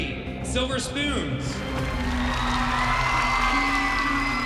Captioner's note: cheering and applause